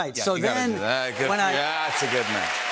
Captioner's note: cheers and applause